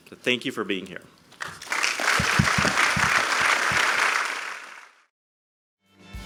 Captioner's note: applause